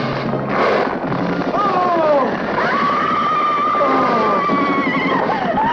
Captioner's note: screaming